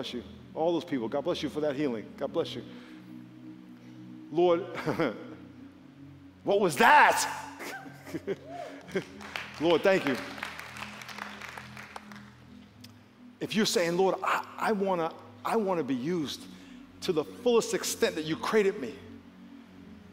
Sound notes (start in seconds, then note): 8.8 applause